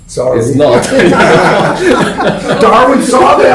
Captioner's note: laughter